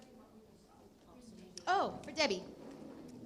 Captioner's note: indistinct conversation